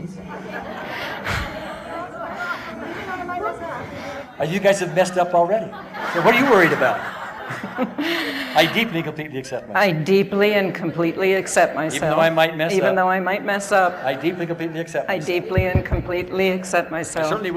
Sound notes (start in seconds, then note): 0.2 audience laughing; 5.6 laughter